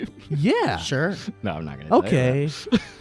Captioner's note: laughs; laughs